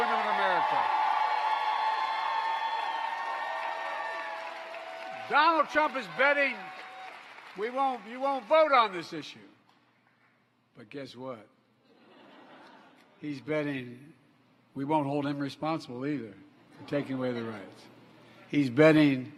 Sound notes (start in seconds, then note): 8.6 applause